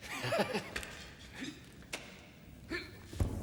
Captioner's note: laughs